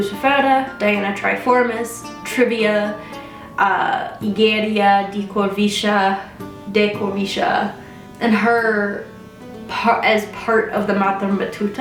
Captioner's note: bad pronunciation